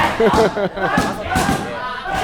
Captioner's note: laughs